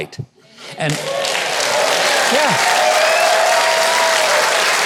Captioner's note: audience applauding